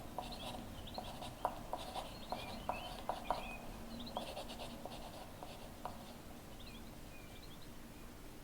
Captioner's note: sound of pen on paper